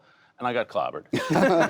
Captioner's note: laughter